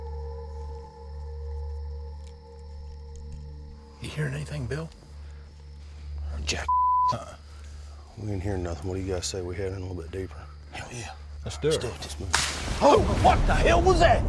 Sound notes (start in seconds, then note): 10.7 whispering; 12.3 loud crack